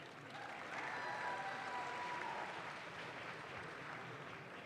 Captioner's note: audience claps